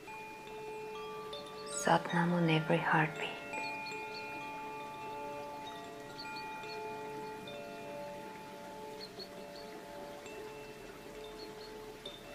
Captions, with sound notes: (bells lightly chiming) Sat Nam very heartbeat. (bells lightly chiming) (water babbling)